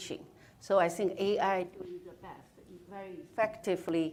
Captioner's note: speaking off mic